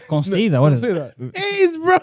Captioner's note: speaking Foreign Language